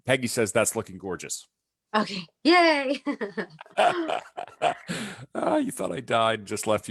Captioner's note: laughs; chuckles